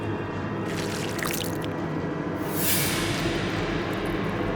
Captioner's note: flesh squelching